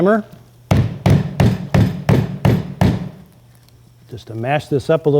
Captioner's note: hammer pounding